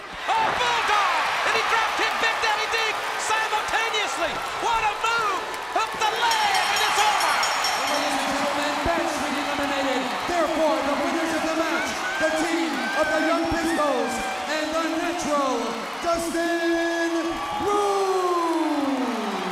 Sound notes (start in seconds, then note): 1.4 crowd cheering; 6.1 bell ringing; 6.9 crowd cheering; 19.2 crowd cheering